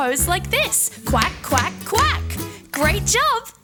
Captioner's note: foot tapping